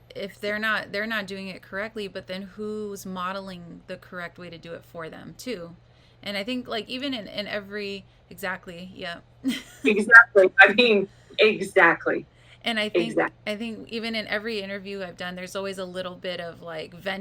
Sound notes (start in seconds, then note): 9.5 laughs